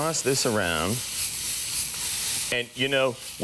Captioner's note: pepper sizzles